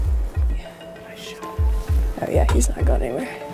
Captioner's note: whispering